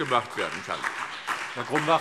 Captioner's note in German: Beifall SPD